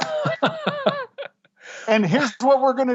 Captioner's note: laughter